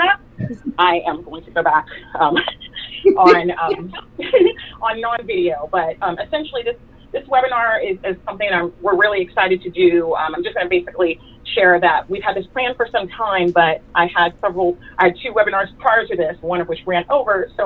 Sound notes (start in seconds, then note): 4.1 laughing